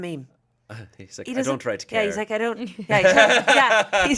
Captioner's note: laughs